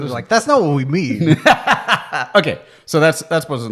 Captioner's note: both laughing